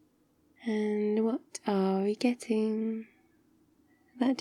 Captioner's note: singsongy